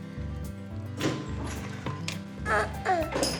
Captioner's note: door opens